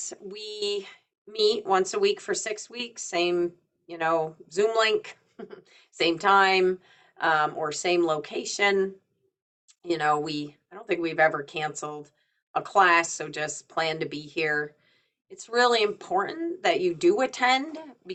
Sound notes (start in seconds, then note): 5.4 chuckles